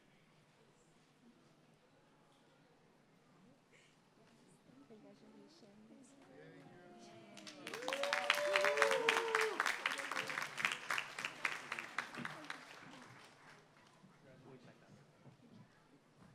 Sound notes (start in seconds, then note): 7.2 applause